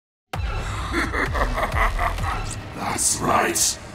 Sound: cackling

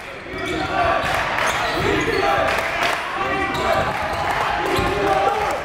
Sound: crowd

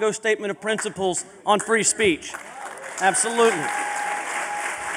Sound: applause

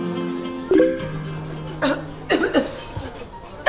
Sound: phone notification sound; chokes on drink; coughs

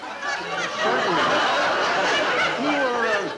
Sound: audience laughing

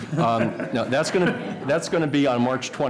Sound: laughter

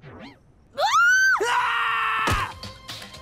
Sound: screaming

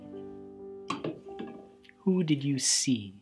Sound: tin can phone clanks

